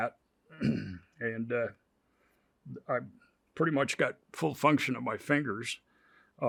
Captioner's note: clears throat